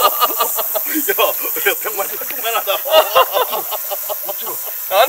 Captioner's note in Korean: 웃음